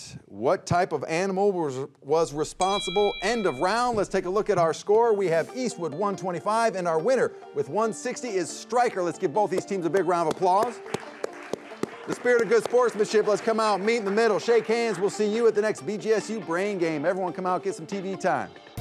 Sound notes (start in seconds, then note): 2.4 bell ringing; 9.5 hands clapping; 10.2 audience applauding